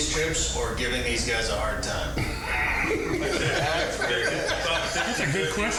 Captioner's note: all laughing